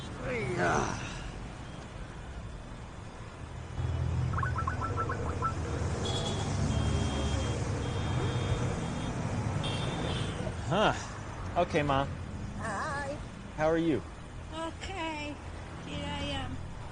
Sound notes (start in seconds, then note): 0.6 sighs; 4.2 video call activation noise; 6.1 traffic swooshing and honking